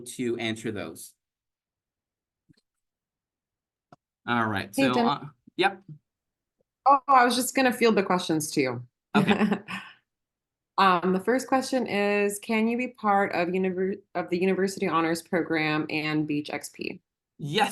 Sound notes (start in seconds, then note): 9.2 chuckles